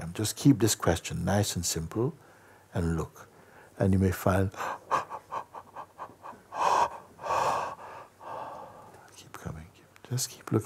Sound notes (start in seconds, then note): 4.5 big yawns